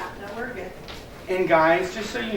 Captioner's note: woman's Voice